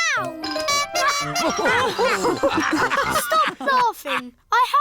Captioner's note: toots horn; all laugh